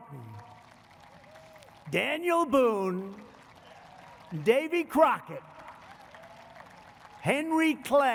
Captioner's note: applause